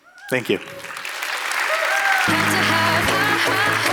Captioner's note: applause